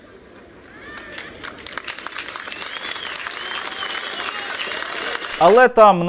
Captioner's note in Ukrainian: гучні оплески